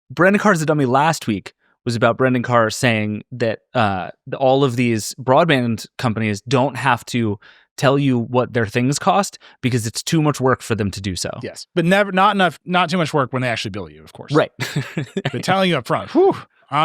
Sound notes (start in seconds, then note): 14.4 laughing